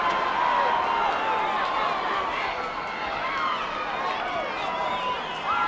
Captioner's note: crowd chattering